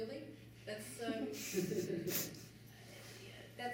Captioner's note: laughter